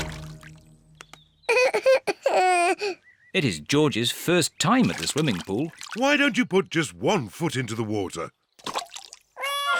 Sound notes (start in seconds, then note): 1.5 cries